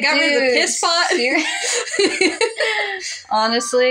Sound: both Laugh

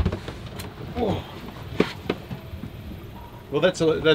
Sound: grunts

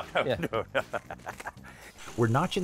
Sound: laughs

